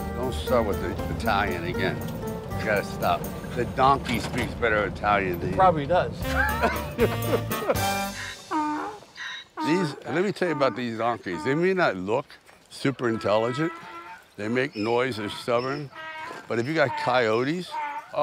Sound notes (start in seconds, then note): 6.2 both laughing; 8.6 donkey honks